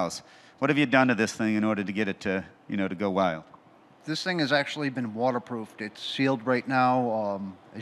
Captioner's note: none